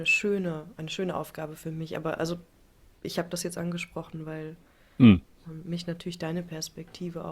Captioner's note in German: räuspern